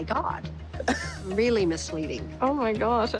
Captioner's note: laughs